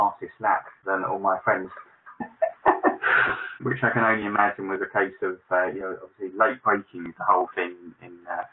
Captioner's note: laughs